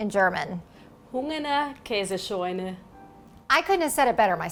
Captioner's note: speaking foreign language